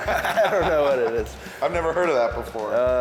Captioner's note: laughter